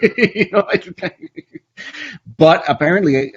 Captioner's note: laughs; stammers